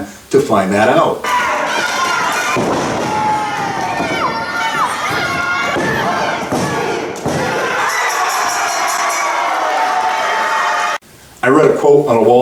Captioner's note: crowd noise